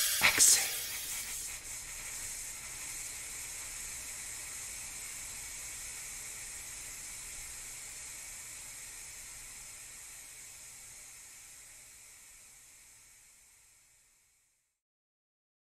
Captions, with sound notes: [delay and reverberated sound] exit.... exit...exi--extxiexiexiixiexexssssssssssss........ [the sound slowly and slowly fades out] ...ssssssssssssssssssssssssssssssss..........................